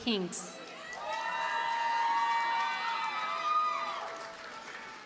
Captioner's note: audience cheers and applauds